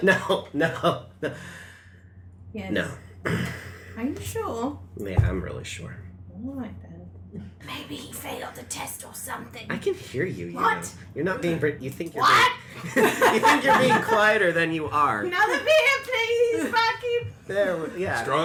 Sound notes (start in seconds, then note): 3.4 laughs; 8.1 loud whisper